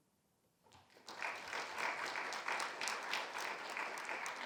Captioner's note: audience clapping